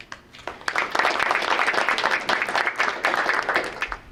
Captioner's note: group applauding